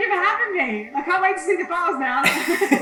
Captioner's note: laughs